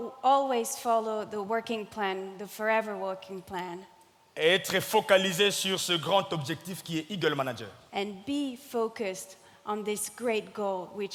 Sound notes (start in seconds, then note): 0.0 speaking in French; 4.5 speaking in French